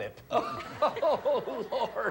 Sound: audience laughing

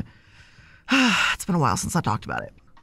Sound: deep sigh

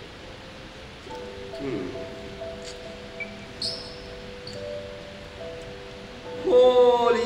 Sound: thinking noises

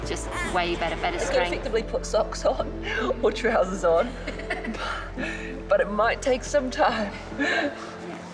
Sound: laughs

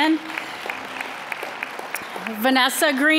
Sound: applause

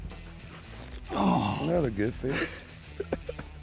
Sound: groaning

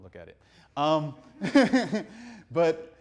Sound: laughs; audience laughing

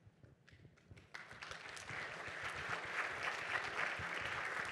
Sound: applause

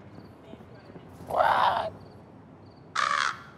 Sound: caws sadly; crow caws

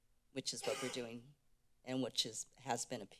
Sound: cough in the background

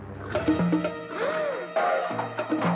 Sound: Toshiko snorts; trash can banging

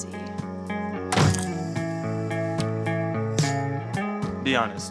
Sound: door slams

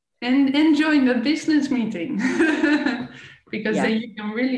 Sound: laughing

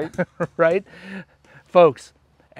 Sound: laughs

